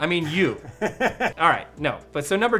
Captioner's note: chuckling